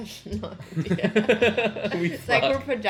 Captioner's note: both laugh